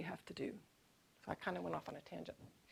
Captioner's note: none